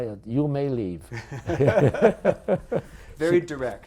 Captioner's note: laughter